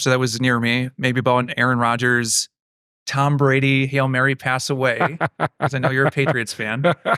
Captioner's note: laughing